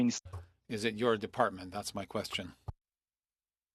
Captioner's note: speaking French